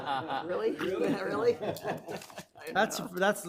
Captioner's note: laughs; people laughing